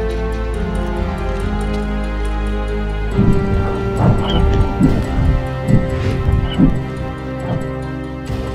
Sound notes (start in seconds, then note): 3.1 wings beating